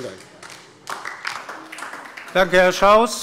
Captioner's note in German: Beifall DIE LINKE